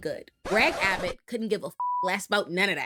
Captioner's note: beep